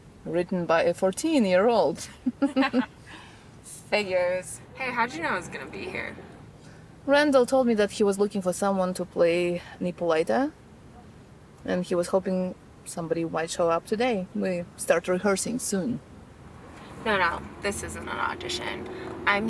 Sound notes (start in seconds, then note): 2.1 both laugh